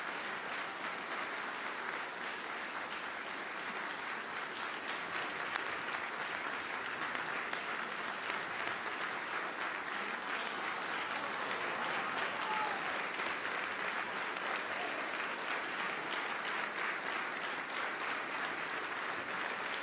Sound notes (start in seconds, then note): 0.0 applause; 12.8 applause